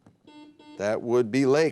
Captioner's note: buzzer beep